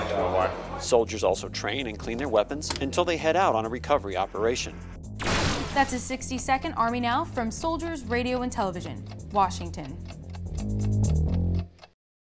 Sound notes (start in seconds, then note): 9.1 bass guitar playing; 9.1 clock ticking